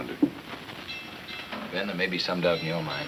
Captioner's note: bell clanging